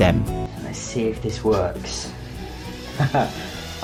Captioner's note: laughs